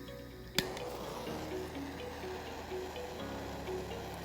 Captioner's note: torch ignites